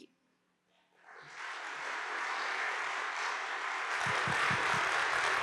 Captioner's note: audience applauding